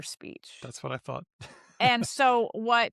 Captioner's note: laughs